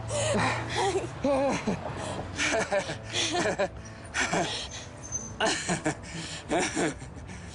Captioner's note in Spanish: Risas